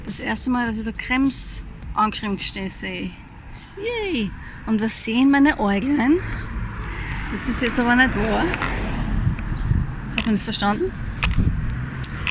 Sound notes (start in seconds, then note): 9.0 traffic